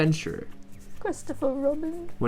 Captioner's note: Pooh voice; worse Pooh voice